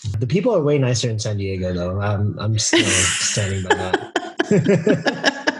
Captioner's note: laughing